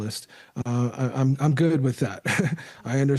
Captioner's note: laughter